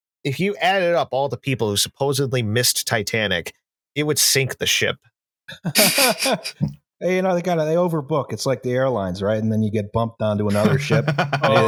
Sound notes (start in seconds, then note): 5.5 light laughter; 10.4 chuckles